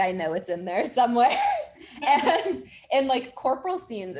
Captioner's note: chuckles